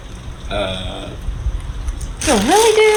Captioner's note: delivery man stutters